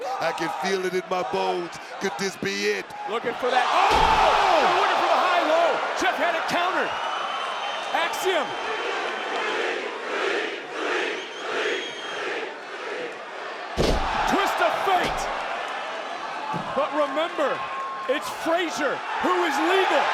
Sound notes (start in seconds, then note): 8.1 crowd chanting; 13.7 wrestlers thudding